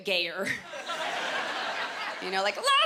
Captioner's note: laughter